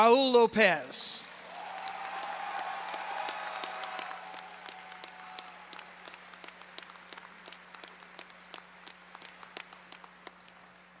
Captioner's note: applause